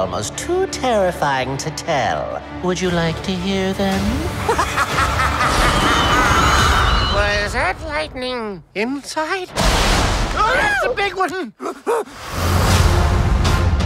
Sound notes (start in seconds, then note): 4.4 evil laughter